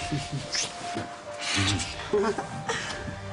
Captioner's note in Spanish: Risas